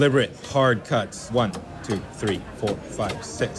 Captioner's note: cleaver thumping